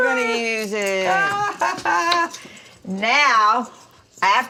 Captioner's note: mama laughs